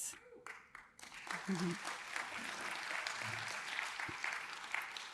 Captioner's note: audience applauding